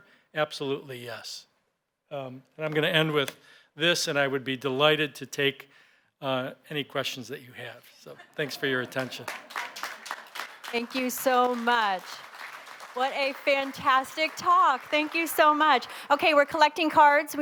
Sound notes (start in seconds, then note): 10.0 applause